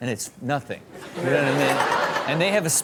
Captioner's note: Chanel laughs